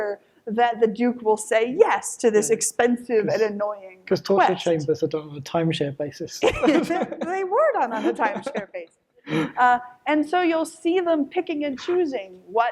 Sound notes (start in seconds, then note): 6.4 laughs